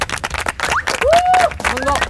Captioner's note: cheering